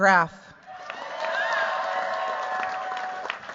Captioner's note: cheers, applause